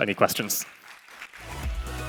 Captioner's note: applause